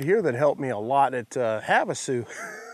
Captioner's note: laughs